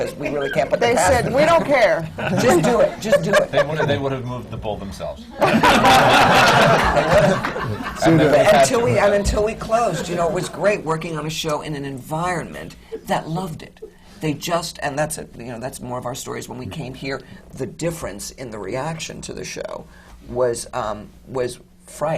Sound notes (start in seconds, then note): 5.4 laughter; 5.4 laughs